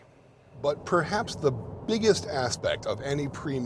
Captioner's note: car rumbling